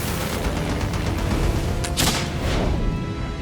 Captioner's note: dramatic music; propellers chopping